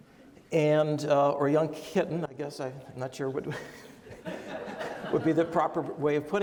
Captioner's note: laughs